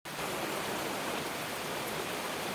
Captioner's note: relaxing Rain